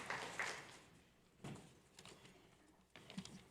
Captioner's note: applause